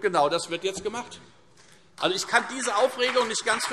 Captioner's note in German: Vereinzelter Beifall Freie Demokraten, CDU und BÜNDNIS 90/DIE GRÜNEN